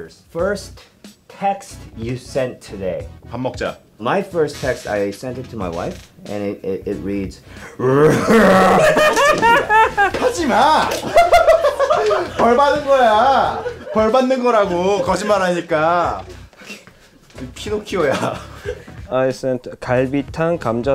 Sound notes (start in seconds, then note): 7.7 laughing; 7.8 growls; 11.3 laughing